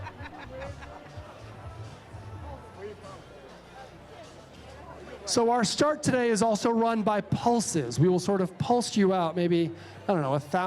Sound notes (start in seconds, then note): 0.0 laughter